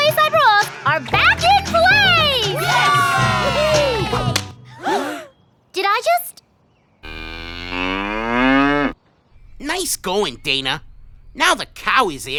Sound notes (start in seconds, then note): 2.2 cheering; 4.7 gasp; 7.0 cow moos